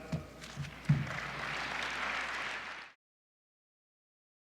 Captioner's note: applause